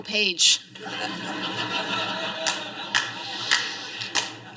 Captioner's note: laughter